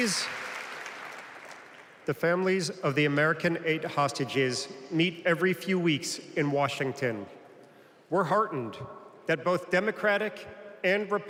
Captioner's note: applause